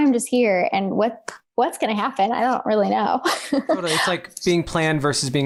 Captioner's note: laughs